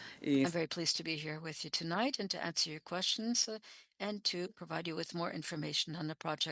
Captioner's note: speaking French